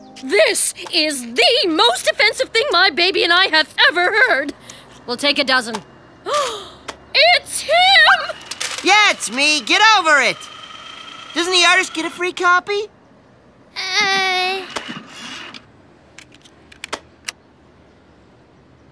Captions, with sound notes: This is the most offensive thing my baby and I have ever heard. We’ll take a dozen! (Gasping) It’s him! Yeah, it’s me, get over it. Doesn’t the artist get a free copy? Eh...